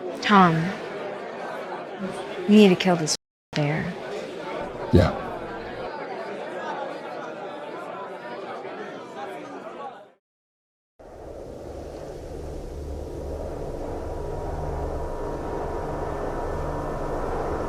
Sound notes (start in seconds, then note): 11.1 wind humming; 14.5 suspenseful music